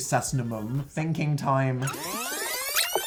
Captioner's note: rewinding sound